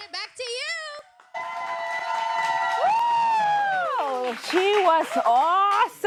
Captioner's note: applause